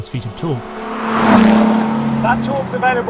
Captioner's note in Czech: motor auta burácí